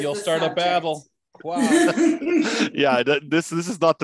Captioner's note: laughs